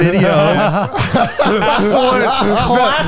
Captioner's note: all laughing